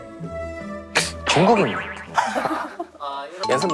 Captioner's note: native-like pronunciation